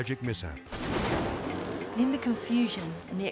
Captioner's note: explosion booms